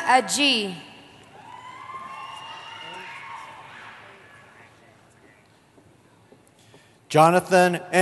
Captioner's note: cheering